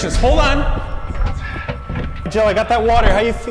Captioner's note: fridge door opening